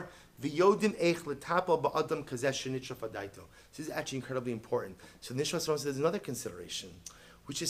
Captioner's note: Hebrew